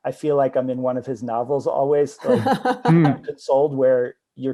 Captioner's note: laughs